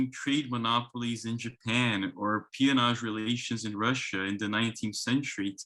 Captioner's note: speaks in foreign language